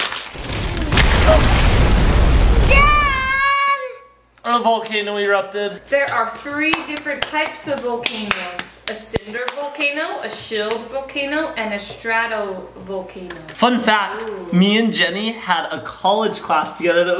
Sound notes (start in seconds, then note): 0.0 crash Sound